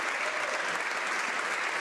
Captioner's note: some Applause